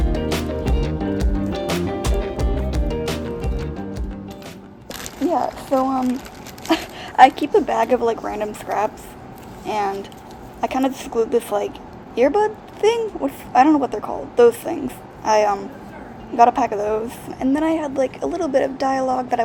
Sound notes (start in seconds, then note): 6.6 laughing